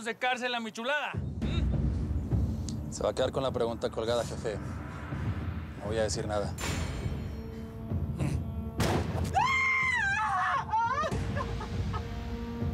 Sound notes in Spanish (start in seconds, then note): 8.8 berta grita